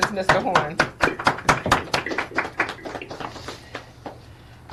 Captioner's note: applauding